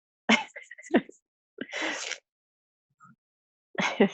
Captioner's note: laughs